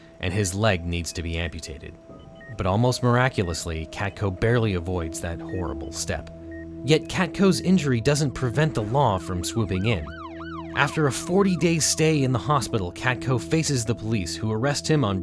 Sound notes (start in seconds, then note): none